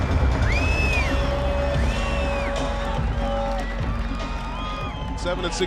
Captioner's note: crowd whistling and cheering